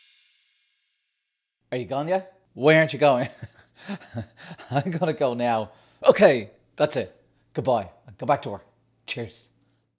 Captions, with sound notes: Are you gone yet? Why aren't you going? (laughing) I gotta go now. OK, that's it. Good bye, go back to work, cheers.